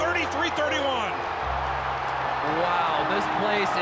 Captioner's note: crowd cheering